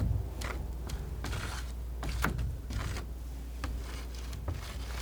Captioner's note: tapping